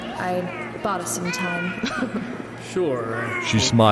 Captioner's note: soft chuckle